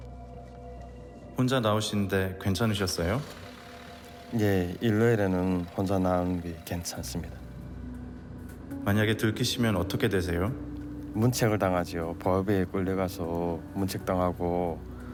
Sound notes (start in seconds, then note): 1.5 reporter speaking Korean; 4.7 worker speaking Korean; 9.1 reporter speaking Korean; 11.6 worker speaking Korean